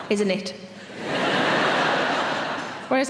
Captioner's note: audience laughing